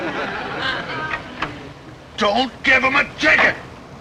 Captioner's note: audience snickering